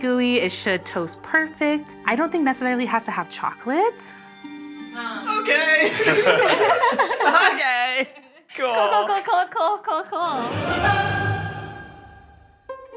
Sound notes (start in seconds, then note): 5.7 all laughing; 10.3 dramatic orchestra flourish